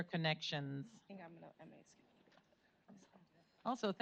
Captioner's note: whispering